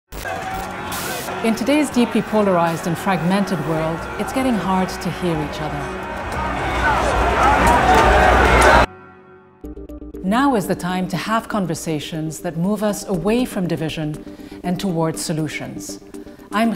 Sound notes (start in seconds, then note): 6.7 crowds clamoring